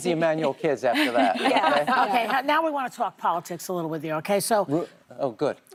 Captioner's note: laughter